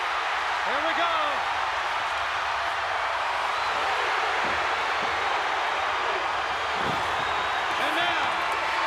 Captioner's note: applause